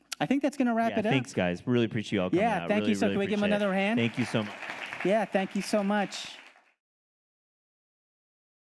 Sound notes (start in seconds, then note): 2.7 audience applauding